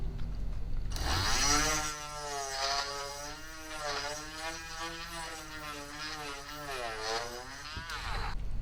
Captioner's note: drilling